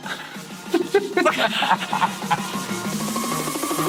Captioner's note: chuckling